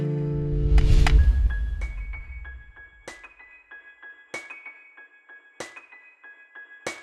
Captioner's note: bright music; air whooshing